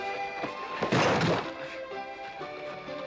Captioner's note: crash